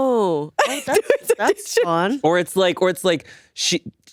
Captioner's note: laughing